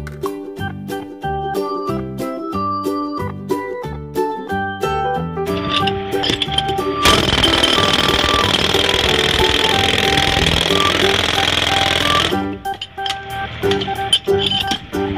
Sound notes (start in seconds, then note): 7.0 jack hammer noise